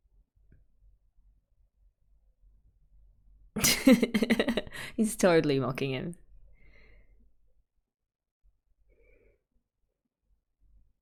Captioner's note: laughs